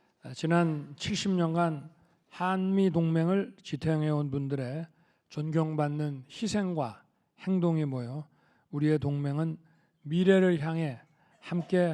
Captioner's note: speaking Korean